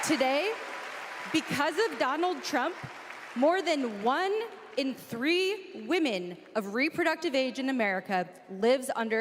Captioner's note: applause